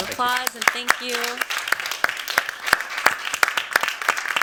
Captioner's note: applause